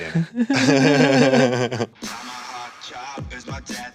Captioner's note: everyone laughs